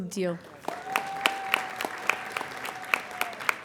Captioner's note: applauding